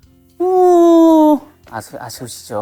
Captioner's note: sloppy, sad sound effect